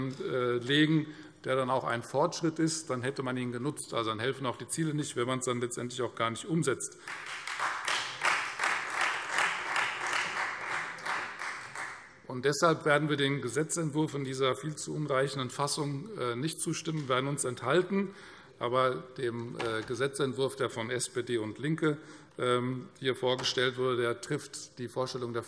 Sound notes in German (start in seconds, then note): 7.0 Beifall Freie Demokraten